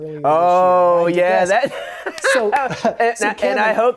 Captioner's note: laughs